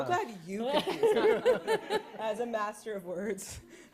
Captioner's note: laughter